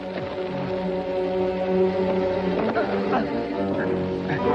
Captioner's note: whimpering